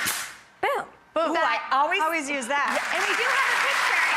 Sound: audience applauding

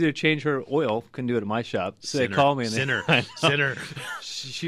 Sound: laughs

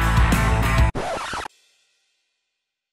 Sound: record Scratch

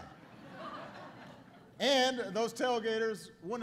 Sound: laughter

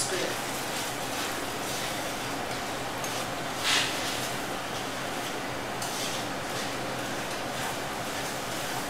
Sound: scrapping sound as she stirs ingredients

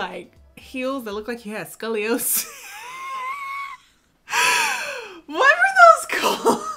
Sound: laughing

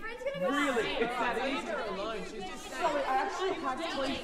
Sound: crowd arguing

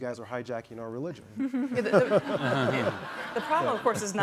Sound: all laugh

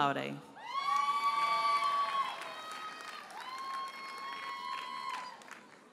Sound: audience cheers and applauds

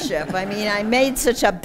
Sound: laughter

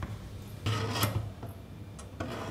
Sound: scratching noises

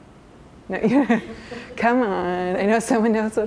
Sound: chuckles

